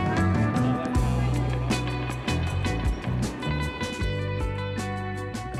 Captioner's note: murmuring